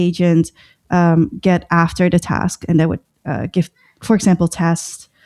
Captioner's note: uh